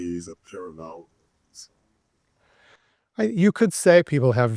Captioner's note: student speaking faintly